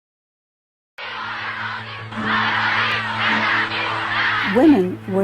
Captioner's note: chanting